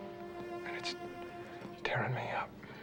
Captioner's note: voice cracking